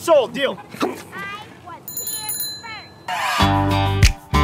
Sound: bike bell dings; country music plays

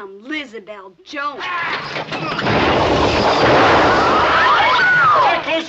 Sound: man yells, crashing, women screaming

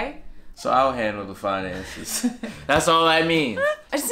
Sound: laughing

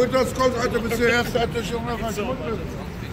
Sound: german language

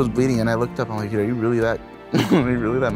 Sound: laughs

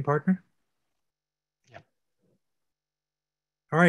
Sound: whispered

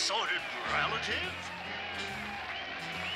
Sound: crowd cheering and clapping

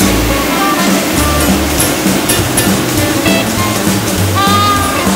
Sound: loud sweeper noise

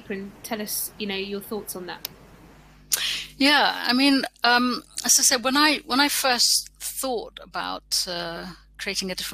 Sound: erm

